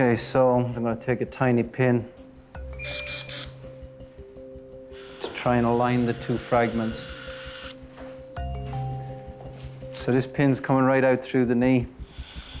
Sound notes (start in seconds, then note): 3.1 drill hissing; 12.0 drill whirring